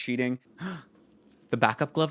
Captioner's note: gasps